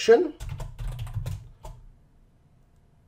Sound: typing

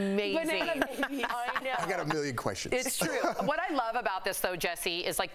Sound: laughter

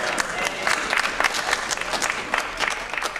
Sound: applause

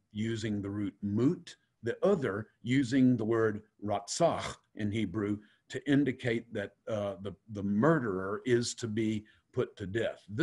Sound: Hebrew

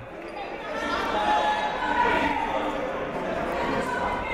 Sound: shouting

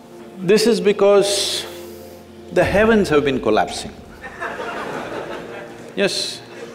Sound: few laugh

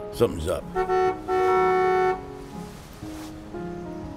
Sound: horn honks

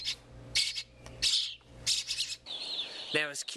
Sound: hungry birds

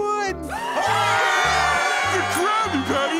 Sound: cheering

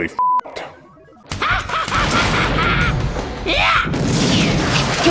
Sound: laughing wickedly, explosions

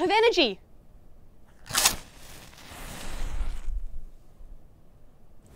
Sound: sounds of a match being lit can be heard

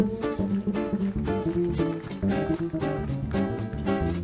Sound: audience clapping

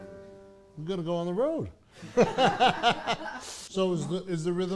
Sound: all laughing

